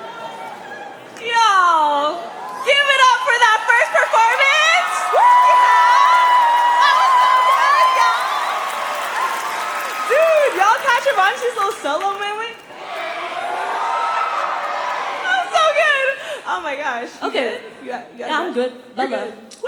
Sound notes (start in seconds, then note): 8.2 applause; 8.2 cheering; 12.5 applause; 12.5 cheering